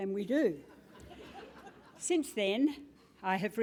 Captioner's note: laugh